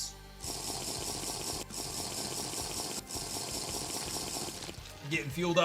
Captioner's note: Minecraft drinking sound